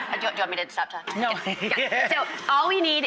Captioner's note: laughs